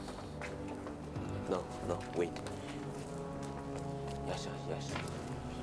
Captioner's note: continues In Tibetan